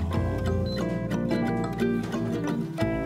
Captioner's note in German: Piepen; fröhliche Musik